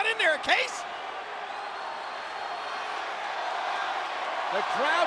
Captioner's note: audience cheering